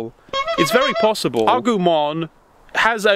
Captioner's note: horn honks